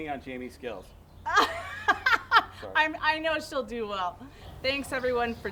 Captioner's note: laughs